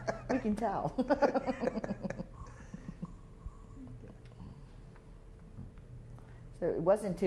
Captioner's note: laughter